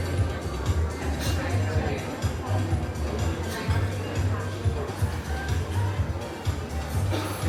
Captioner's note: guests chatting indistinctly continues